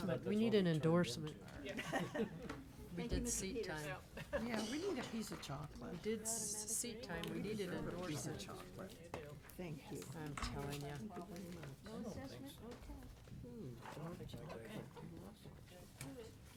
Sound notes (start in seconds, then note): 1.4 chuckling; 11.3 board members chattering